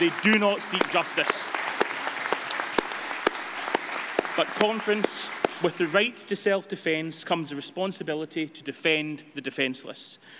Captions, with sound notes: They do not seek justice. [APPLAUSE] But Conference, with the right to self-defence comes the responsibility to defend the defenceless.